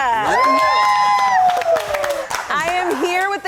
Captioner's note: crowd cheers